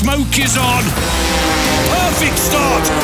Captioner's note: engine revving